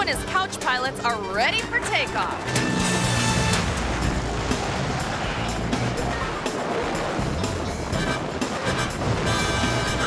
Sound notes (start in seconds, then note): 2.4 airplane whooshes; 2.5 upbeat instrumental music